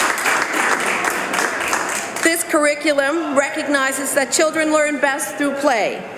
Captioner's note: some Applause